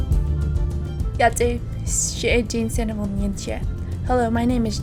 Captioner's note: non-english speech